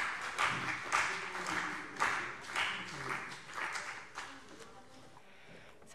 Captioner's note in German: Beifall CDU und BÜNDNIS 90/DIE GRÜNEN